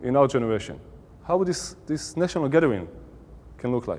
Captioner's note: Hebrew